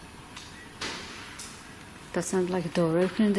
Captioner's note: bang